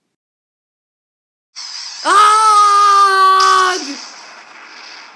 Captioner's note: Blue Shell flying sound; explosion sound